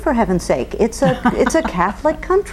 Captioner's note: chuckles